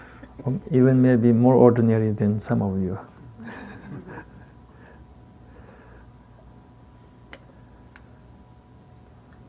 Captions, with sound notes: even maybe more ordinary than some of you (chuckles).